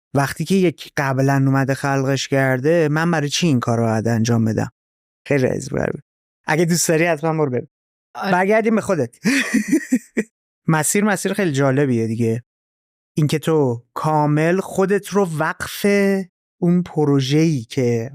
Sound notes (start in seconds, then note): 9.2 laughs